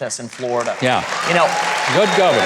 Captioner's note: audience cheering